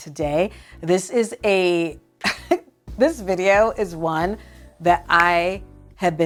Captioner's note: laughs